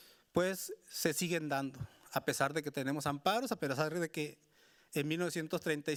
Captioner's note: speaking Spanish continues